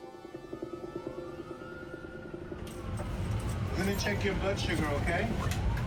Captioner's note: police sirens